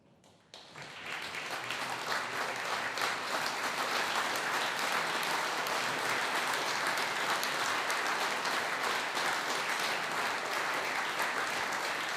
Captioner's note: applause